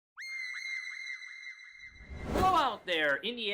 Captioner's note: high-pitch screaming